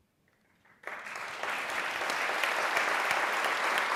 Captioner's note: applause